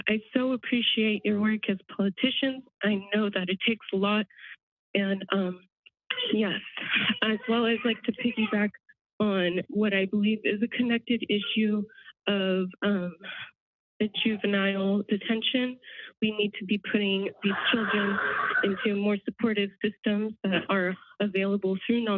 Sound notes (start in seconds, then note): 17.0 microphone static